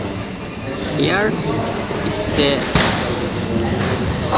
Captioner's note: foreign language